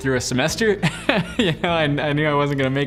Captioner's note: laughing